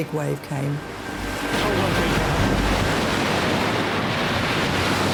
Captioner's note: waves crashing